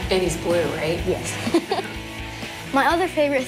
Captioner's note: laughs